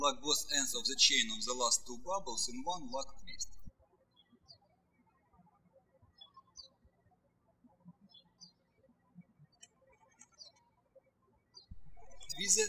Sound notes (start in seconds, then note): 4.1 birds chirping